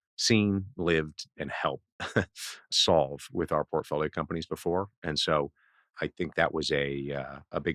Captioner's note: laughs